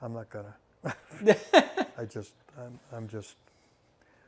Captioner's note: bot laughing